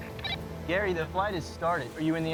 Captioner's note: radio chirps